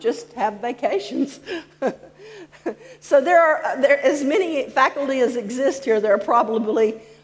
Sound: laughs

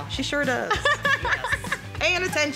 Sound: laughs

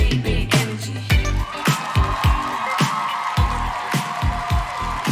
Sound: audience cheering; music fades out

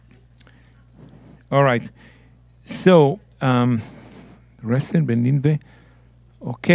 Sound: speaking in Hebrew

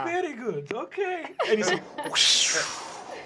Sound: makes whooshing noises

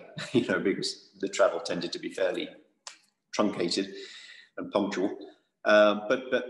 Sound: laugh

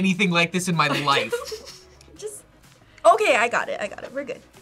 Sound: laughs

